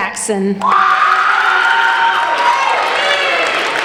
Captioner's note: applauding